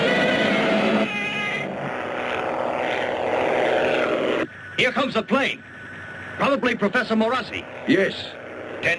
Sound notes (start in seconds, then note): 2.6 plane buzzing